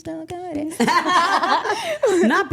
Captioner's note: group laughing